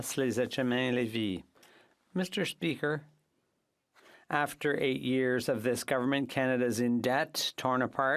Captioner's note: speaking French